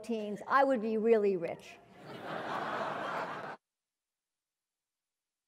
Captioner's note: laugh